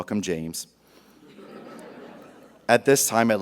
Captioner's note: audience laughs